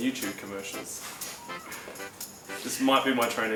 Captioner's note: laughing